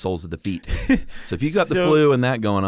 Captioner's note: laughs